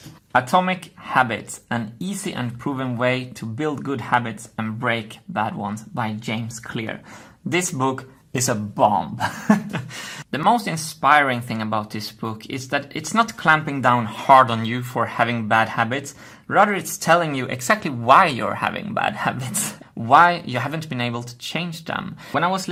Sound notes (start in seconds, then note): 9.2 laughs